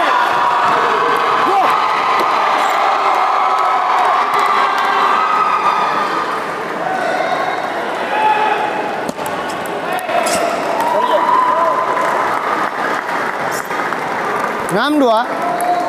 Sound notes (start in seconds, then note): 2.9 applause; 8.1 applause